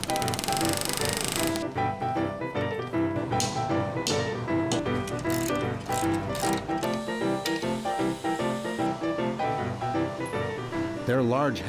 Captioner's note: tool sounds